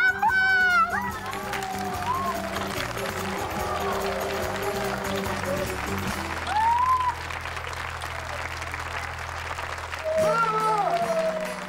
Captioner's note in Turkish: Alkış sesi